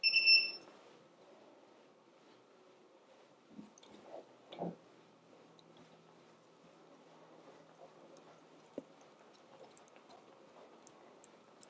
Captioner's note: bicycle bell